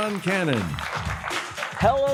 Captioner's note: applause